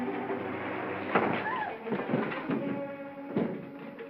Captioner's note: ominous music; door slides shut; thumping sound